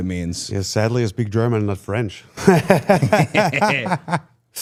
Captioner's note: laughs